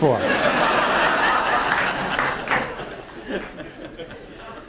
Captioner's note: audience laughs